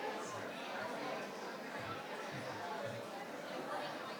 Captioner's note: participants chatter